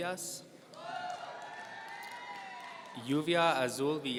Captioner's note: audience cheering